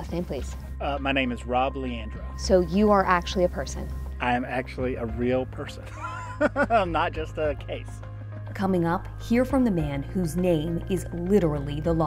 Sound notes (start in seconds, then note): 5.8 chuckles